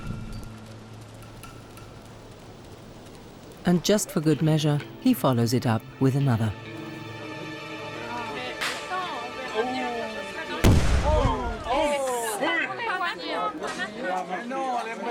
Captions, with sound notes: And just for good measure, he follows it up with another. (people chattering) (gun firing)